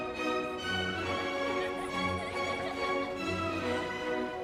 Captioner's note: children laughing